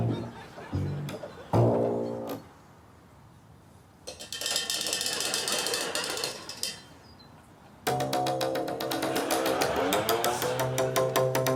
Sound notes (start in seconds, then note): 4.1 rattling